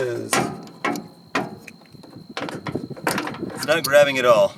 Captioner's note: metal banging